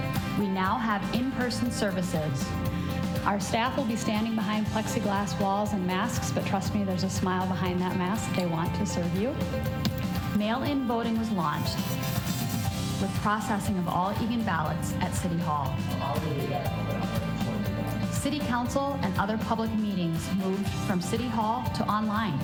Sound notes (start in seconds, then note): 11.6 sound of machine